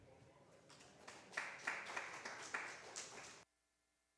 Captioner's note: applause